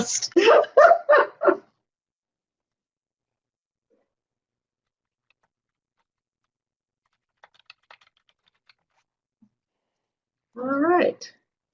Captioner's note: no sound